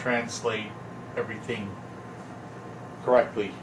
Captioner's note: none